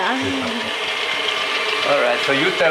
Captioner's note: whirring continues